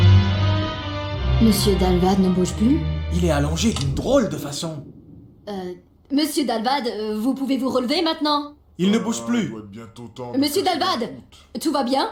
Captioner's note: speaking French